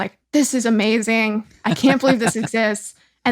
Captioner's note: laughs